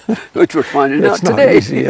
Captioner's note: laughs